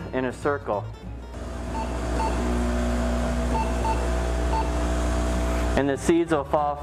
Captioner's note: sound of vibrating counter